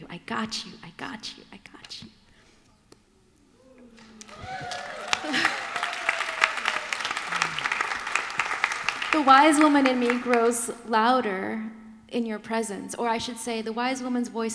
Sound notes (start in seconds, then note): 8.7 applause